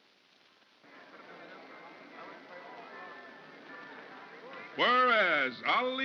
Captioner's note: soft indistinct crowd chatter